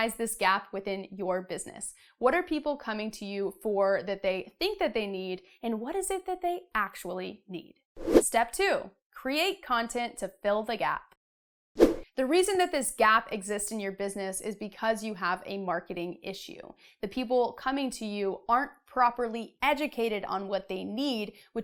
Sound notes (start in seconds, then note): 8.0 air whooshing; 11.8 air whooshing